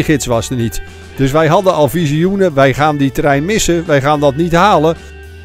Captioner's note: voiceover